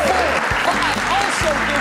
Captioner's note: crowd cheering